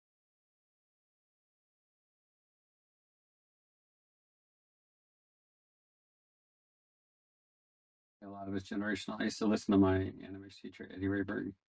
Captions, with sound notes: (audio cuts out) A lot of us generation, I used to listen to my animation teacher, Eddie Ray Burton.